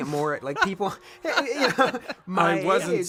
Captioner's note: laughter